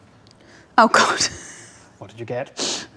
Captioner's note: laughs